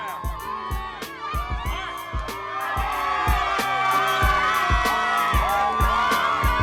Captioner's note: crowd cheering; pleasant music